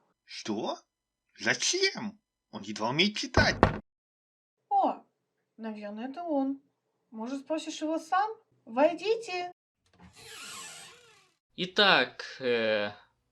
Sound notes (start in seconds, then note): 3.3 door Knocking; 9.9 door opens